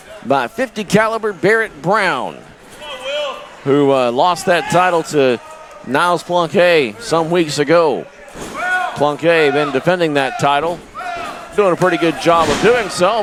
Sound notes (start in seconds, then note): 2.7 crowd cheering